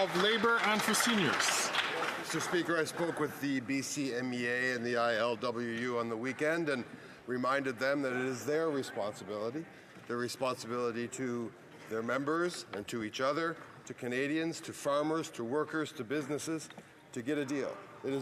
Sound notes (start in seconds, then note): 3.6 some Applause